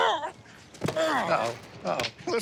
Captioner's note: grunt